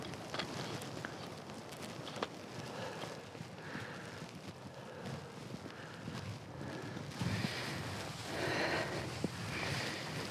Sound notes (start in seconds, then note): 2.6 heavy breathing